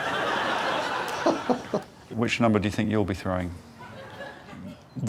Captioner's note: laughs